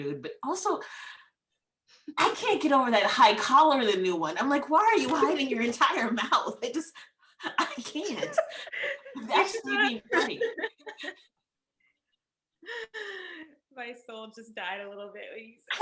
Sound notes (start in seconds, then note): 7.5 laughing